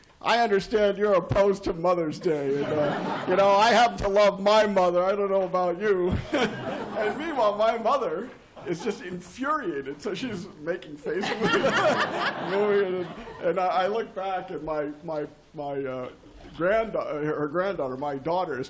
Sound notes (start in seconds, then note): 6.0 laughter; 11.2 laughter